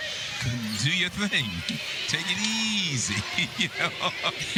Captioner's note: laughter